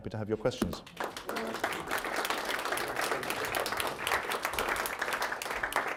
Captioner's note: audience applauding